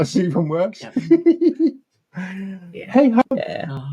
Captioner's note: laughing